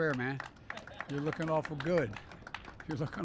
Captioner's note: applause; laughter